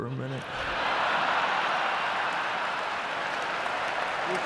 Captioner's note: audience laughing